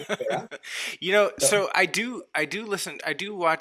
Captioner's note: laughs